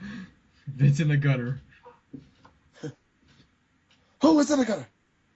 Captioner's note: laughing